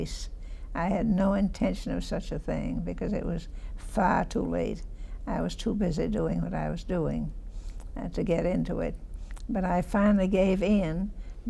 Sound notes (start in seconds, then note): none